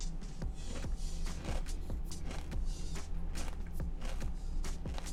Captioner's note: cereal crack sound